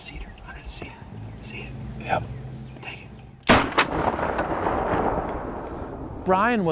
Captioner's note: whispering; whispering